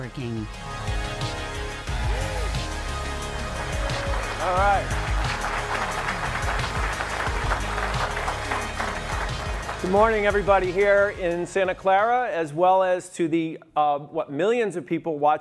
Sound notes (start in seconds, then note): 0.2 electronic music; 2.5 audience clapping; 5.8 audience clapping